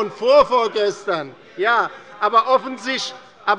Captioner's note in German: Zurufe von der CDU